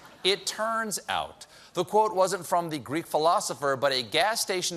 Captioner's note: laughter